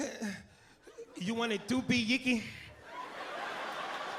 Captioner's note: moans